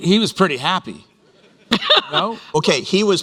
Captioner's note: laughter